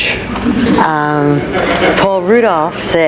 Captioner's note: audience laughing